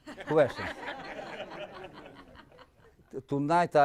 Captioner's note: audience laughing